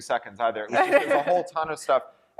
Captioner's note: laughter